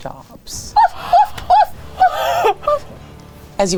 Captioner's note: imitates dog whimpering